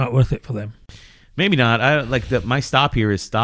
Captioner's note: uh